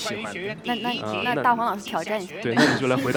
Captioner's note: laughs